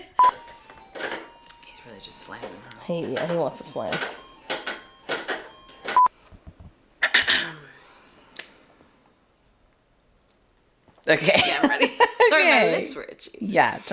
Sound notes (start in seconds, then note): 5.1 background noises of Baby slamming presumably toys